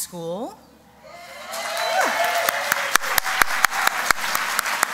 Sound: applause

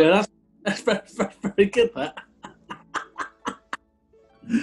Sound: laughing

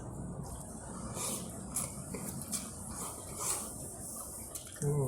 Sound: slurp chup chkip slurp slurp chrap

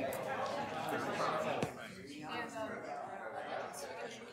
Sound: audience chattering

